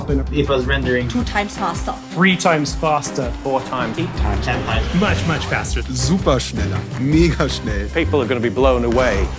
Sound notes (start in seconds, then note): 5.9 speaking German